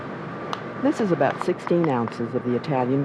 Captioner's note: voiceover